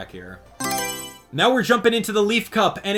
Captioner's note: Mario Selection Sound